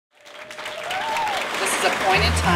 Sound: applause

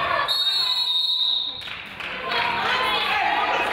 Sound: whistle blows

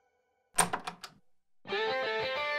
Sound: door opens

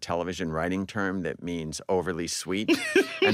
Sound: laughs

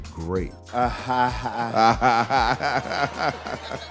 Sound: laughing

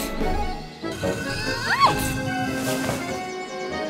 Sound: door moving

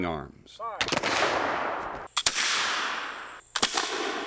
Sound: gunfire

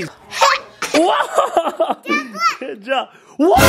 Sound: laughs

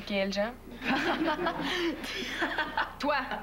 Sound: Rires

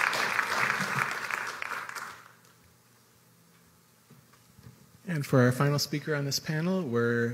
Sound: applause

